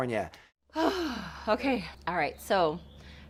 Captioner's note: sighs